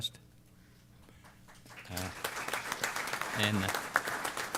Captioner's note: applause